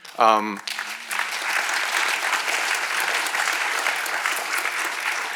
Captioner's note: attendees clapping